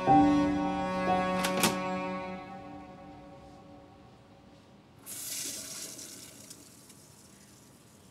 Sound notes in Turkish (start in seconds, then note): 5.0 Sifon çekiliyor